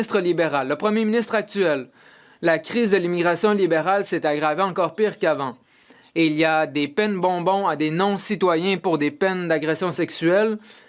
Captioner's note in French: voix de l'interprète